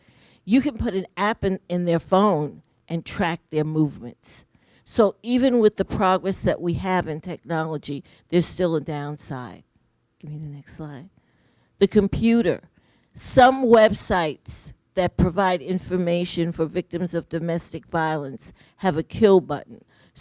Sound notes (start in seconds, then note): none